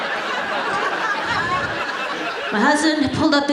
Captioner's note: audience laughs